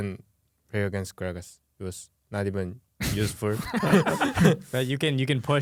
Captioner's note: laughs